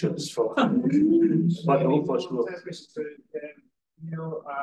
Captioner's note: audience chuckles